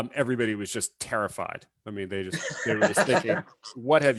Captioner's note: laughs